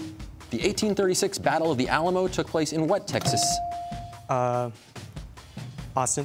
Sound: none

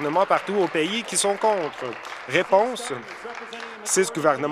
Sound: applause

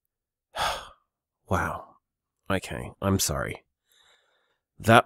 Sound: sighs

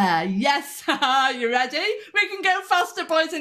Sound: laughter

